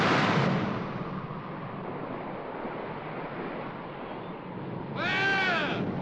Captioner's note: waves crash; wind howls